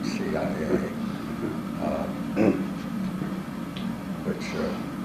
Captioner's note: laugh